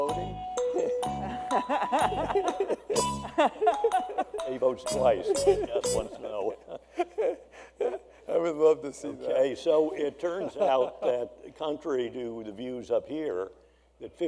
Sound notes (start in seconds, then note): 1.2 laughter